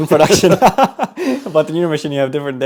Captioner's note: laughing